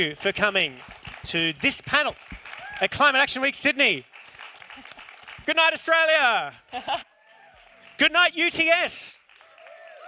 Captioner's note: clapping